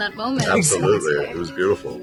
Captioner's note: laughing